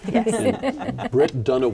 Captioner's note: laughing